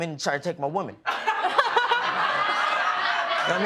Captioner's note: laughter